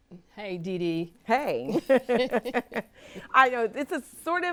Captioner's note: women chuckle